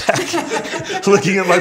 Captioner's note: laughs